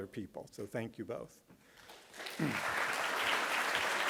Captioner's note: applause